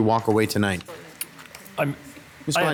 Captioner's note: participant speaks faintly